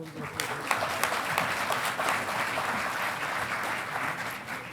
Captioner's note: audience applauding